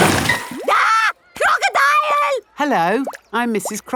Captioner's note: screams